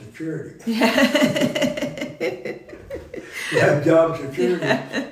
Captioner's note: laughing